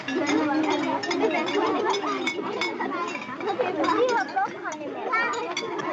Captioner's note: happy Babble of Voices